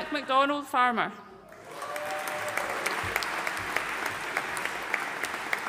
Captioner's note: audience applauding